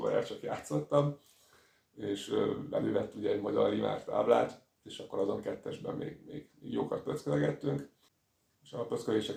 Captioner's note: Hungarian